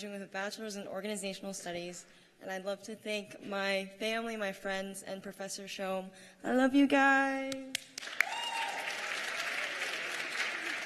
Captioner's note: cheers and applause